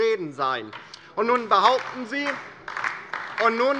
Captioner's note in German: Beifall DIE LINKE